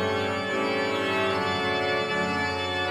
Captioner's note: none